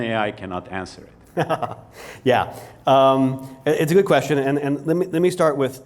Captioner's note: laughs